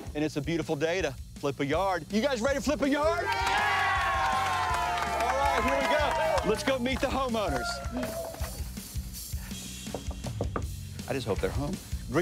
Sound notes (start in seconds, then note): 3.2 crew cheering; 9.8 knocking